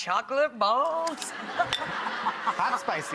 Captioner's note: laughing